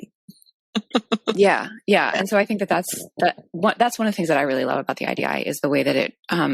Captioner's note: laughs